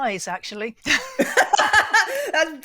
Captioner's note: laughter